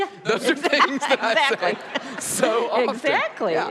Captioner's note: laughs